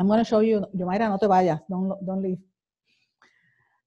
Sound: speaking foreign language

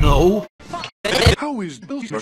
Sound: scrambled noises to teach you a message

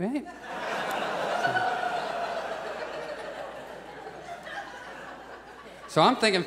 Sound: audience laughs

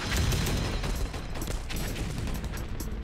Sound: gunshots

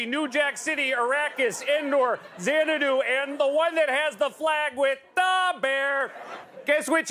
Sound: laughter

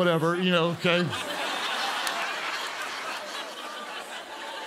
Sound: congregants laugh

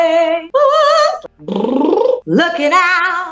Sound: singing; lip trills

